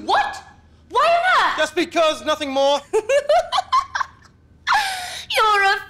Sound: laughs derisively

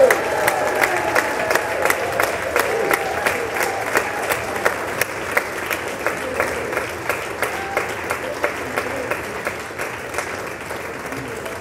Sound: applause; cheers and applause; applause

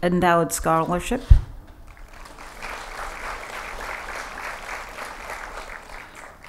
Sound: applause

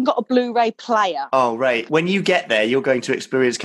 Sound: male Voice

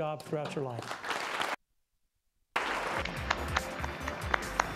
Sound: applause

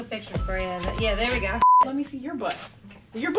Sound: beep

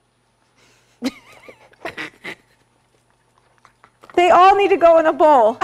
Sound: laughing

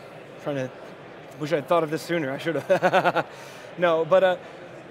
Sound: laughing

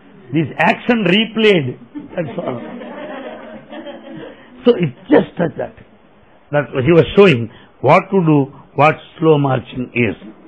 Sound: laughter

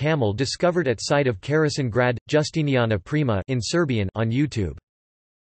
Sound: in Serbian

